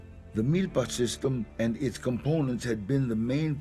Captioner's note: in English